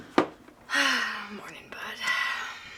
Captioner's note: sighs